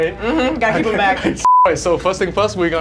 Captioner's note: beep